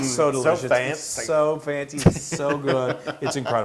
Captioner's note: laugh